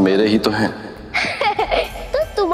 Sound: laughs

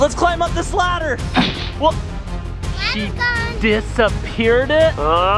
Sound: sound of smoke poofing

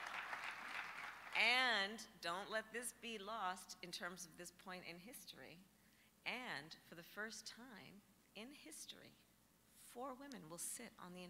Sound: applause

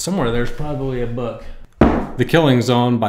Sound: bang

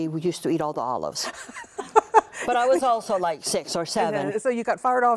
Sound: laughter

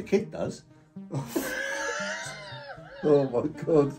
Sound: both laughing

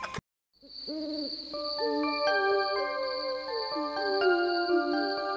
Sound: owls hooting

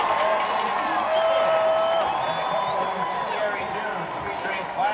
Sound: crowd cheering

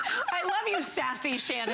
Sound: laughter

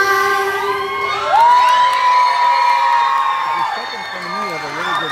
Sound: cheers, applause

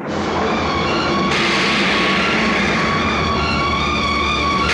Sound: thunder rumbling

